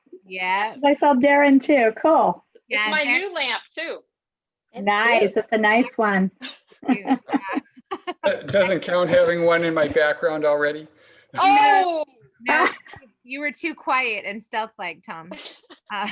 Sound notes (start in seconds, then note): 6.7 gentle laughs; 15.3 laughs